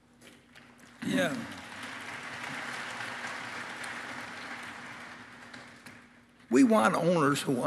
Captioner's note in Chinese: Applause; 掌聲